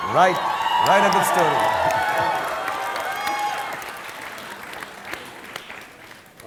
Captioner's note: audience cheering